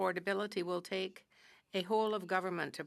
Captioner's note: speaking french